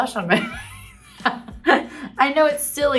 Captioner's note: Kate laughing